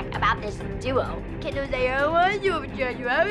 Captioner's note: whining